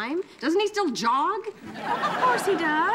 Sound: audience laughing

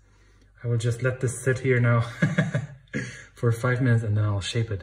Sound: laughs

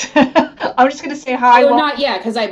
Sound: laughs

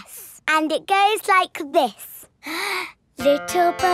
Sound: inhales

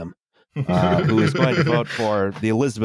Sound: laughter

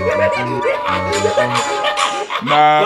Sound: laughing hysterically; pipes banging; laughing scarily

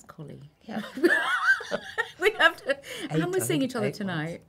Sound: laughing

